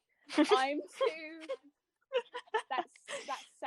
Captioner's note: laughter